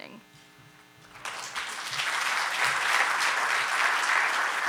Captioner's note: audience applauding